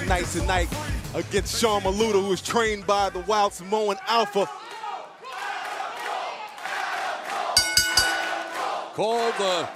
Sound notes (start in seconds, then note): 6.6 fans chanting; 7.6 bell ringing